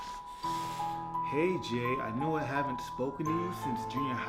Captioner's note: reading aloud